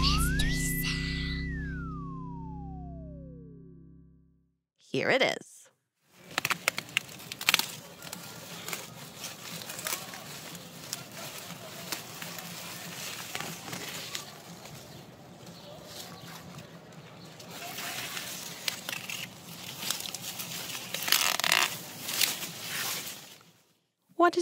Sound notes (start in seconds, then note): 0.1 whispering; 6.1 rustling noises